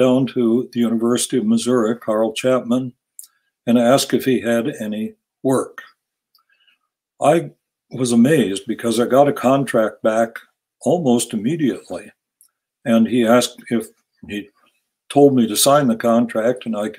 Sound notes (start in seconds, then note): none